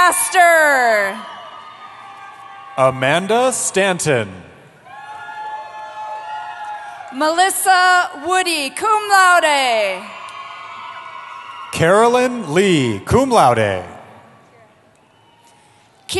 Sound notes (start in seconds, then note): 0.0 cheering; 4.8 cheering